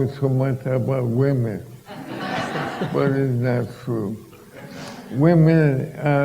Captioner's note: laughter